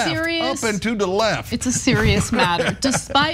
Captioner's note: laugh